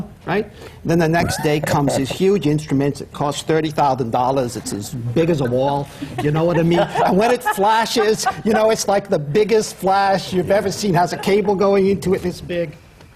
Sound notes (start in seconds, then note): 1.2 laughs; 5.3 laughter